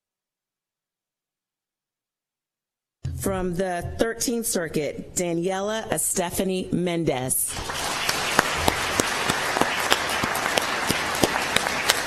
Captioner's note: applause